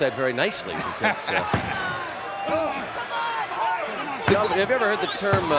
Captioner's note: laugh